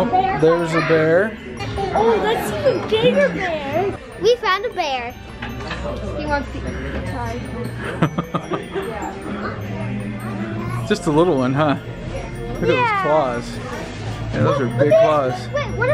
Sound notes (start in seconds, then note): 7.8 laughs